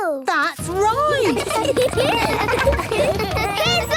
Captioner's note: laughter